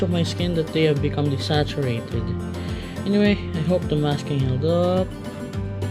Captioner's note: sarcasmo 2